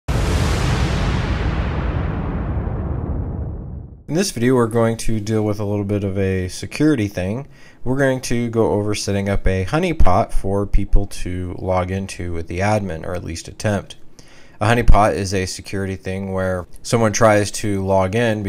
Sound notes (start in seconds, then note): 0.0 explosion; 4.1 voiceover